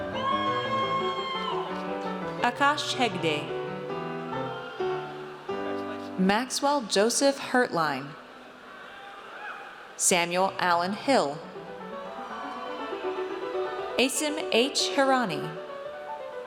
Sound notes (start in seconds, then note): 0.0 audience cheers; 12.0 audience cheers